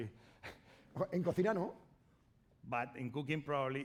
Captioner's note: speaking spanish